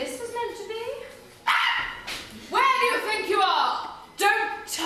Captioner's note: screams